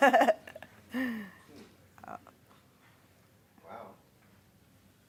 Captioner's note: laughing